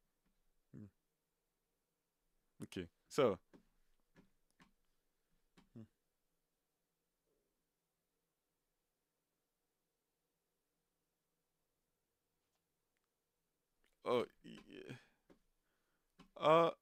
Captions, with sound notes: Okay, so. (keyboard clicking) Oh, yeah.